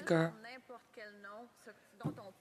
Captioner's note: speaking French